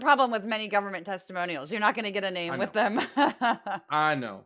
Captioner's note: laugh